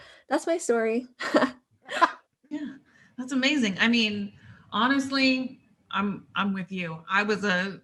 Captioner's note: laughter